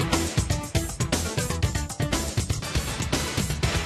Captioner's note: none